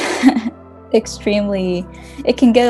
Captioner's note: laughing